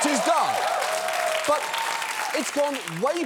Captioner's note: audience cheers